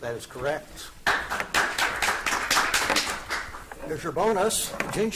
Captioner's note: audience applauding